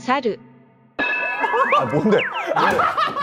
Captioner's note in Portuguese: Pessoal a chorar